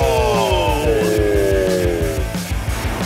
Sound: distorted

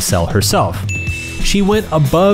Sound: arrow chimes

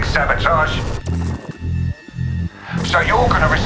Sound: static whirring

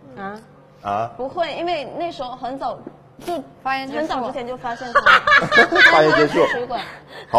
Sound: laughing in the background

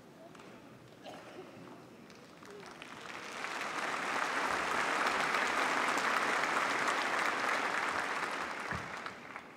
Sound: applause

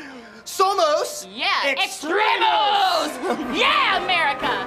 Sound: speaking in Spanish

